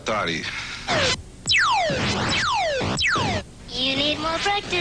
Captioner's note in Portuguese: som do jogo